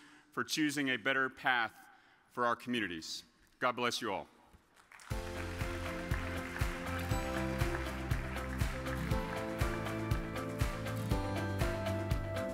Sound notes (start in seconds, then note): 4.7 audience applauds; 5.1 upbeat music